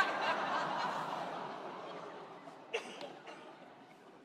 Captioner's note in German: Lachen